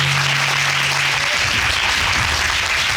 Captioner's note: audience applauding